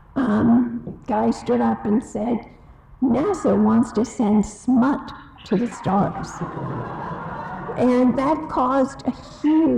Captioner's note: audience laughs